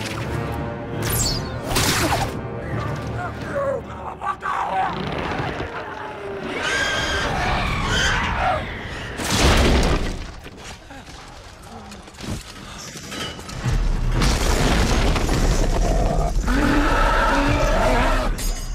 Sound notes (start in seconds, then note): 4.0 shouts; 9.2 crashes; 13.3 rock crumbles; 15.8 roars